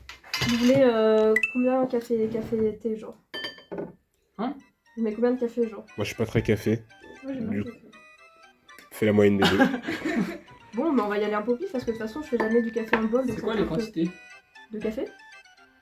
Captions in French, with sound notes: Vous voulez combien de café, café, thé, genre ? - Hein ? - Je mets combien de café ? - Moi j'suis pas très café. - Moi j'aime bien le café. Fais la moyenne des deux. (rires) - Bon ben on va y aller un peu au pif parce que je fais jamais du café- - C'est quoi les quantités ? - De café ?